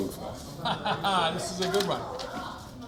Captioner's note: laughs